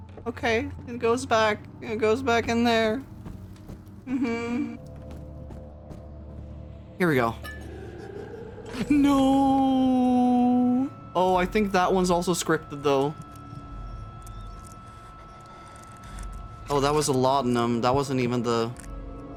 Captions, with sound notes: Okay, it goes back, it goes back in there. Mm-hmm. Here we go. [Monster growl] No! Oh, I think that one's also scripted though. [High-pitched ambience] [Daniel breathing] Oh, that was a laudanum, that wasn't even the...